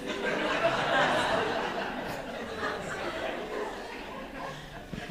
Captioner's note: audience laughing